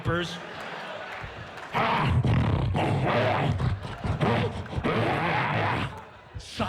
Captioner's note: roars and grunts